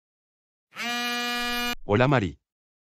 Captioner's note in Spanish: FX - Cell Phone Buzz